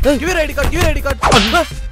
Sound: slap

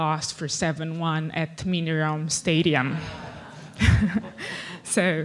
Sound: audience laughs

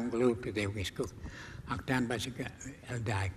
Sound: speaking native language

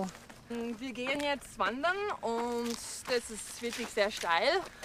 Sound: Lindsey speaks German

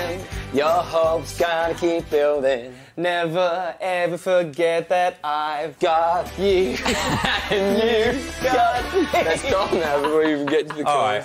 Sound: laughs

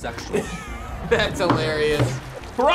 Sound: laughs

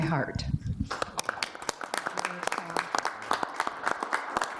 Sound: applause

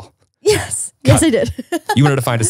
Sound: laughs

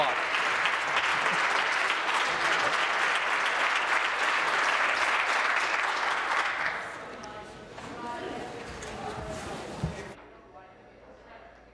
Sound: applause

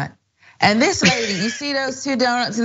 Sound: laugh

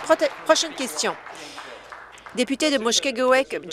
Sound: applause

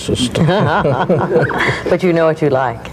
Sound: both laughing

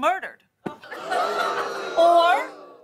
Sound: audience oohs

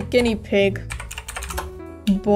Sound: typing

